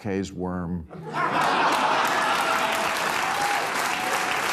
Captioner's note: audience laughing, applauding